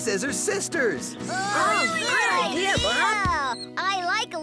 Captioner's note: cheering